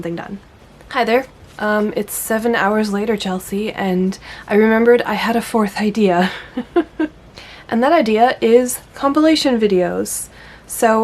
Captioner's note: laughs